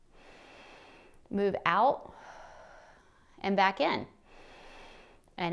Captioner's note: inhales; exhales; inhales